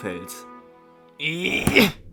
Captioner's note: grunts